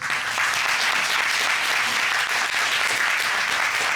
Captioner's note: applause